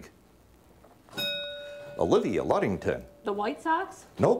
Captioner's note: bell rings